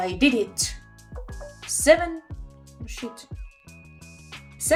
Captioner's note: phone notification